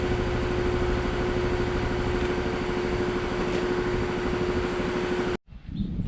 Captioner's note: air compressor whirring